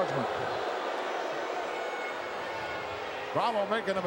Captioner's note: crowd booing